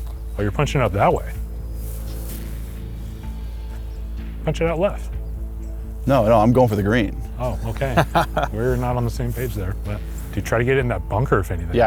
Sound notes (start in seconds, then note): 7.6 laughs